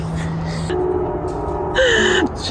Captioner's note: loud train horn